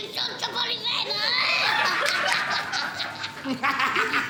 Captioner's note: all laughing